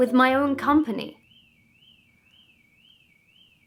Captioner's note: car alarm